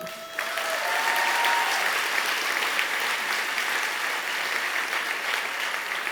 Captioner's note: cheering and applause